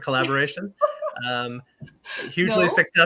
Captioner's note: laughing